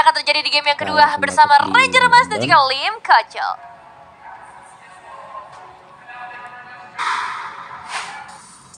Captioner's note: applause